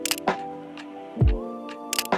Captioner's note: camera clicks